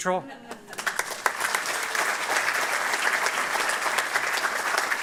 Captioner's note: applause